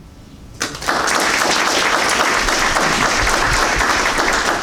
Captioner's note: crowd applauds